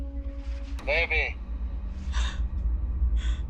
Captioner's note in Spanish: Exclamación